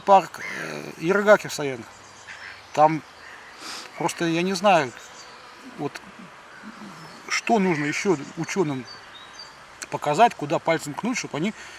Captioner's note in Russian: фыркает